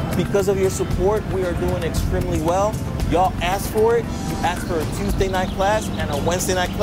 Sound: none

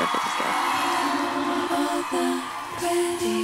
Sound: applause

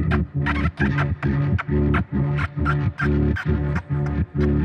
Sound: bird calling

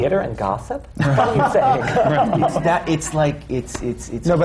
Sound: laughter

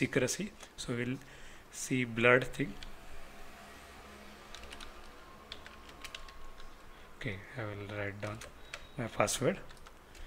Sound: keyboard typing sound

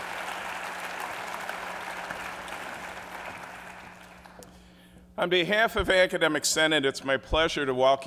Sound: applause

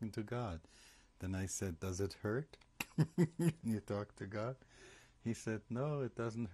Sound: laughs

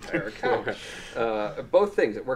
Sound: group laughing

